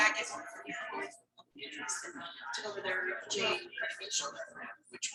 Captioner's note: people chattering indistinctly